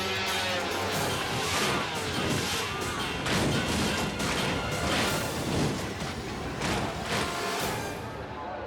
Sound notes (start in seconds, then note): 3.4 snowmobile clattering